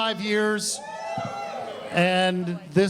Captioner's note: audience cheers